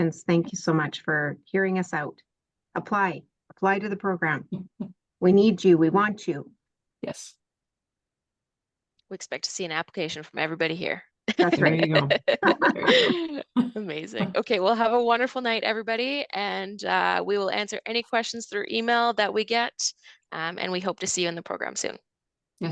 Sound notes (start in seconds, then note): 11.3 laughing